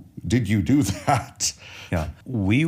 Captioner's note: chuckles